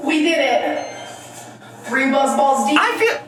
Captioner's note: timer beeping